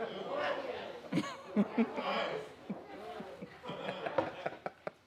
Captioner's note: chuckling